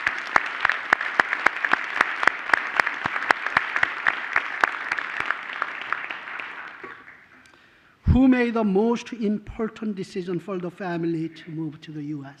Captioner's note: applause